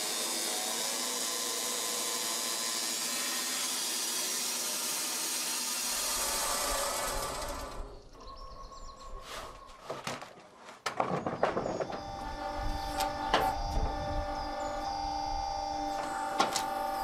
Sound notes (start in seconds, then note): 11.8 motor starts again